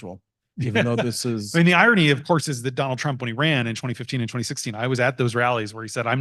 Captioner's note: laughs